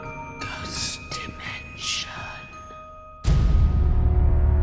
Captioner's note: whispering Voice